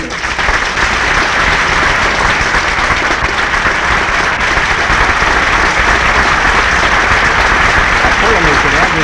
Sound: applause; applause and Inaudible speaking

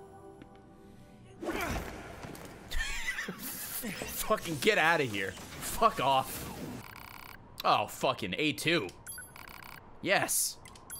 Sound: laughs

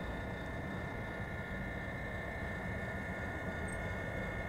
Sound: whirring sound

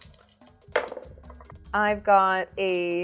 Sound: dice thudding

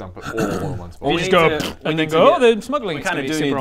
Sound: pff

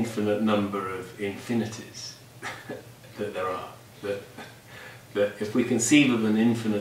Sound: laughs

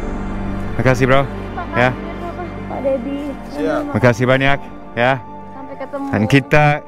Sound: speaking in Bahasa

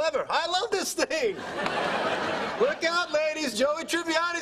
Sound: laugh

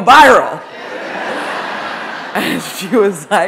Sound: audience laughing

